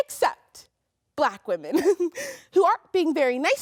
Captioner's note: laughs